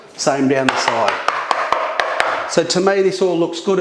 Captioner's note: tapping